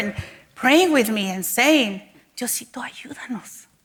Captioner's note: speaks in Spanish